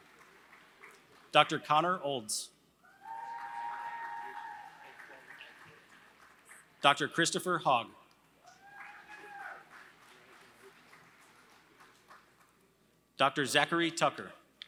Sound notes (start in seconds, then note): 3.0 applause; 8.4 applause